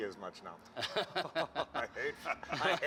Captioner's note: laughter